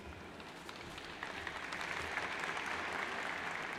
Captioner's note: crowd applauds